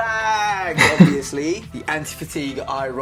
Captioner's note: laughs